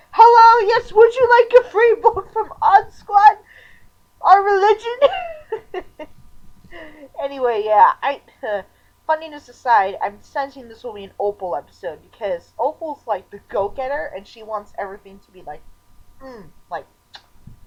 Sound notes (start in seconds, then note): 5.0 laughter; 6.7 sigh